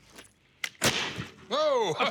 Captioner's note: gunshot; laughs